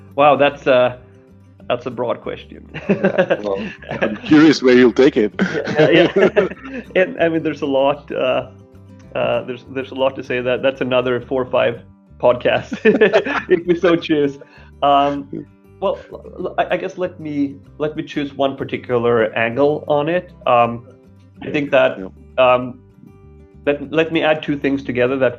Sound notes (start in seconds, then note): 2.7 laughing; 12.5 both laughing